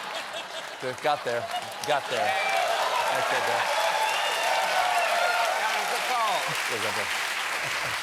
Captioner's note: laughter; cheers and applause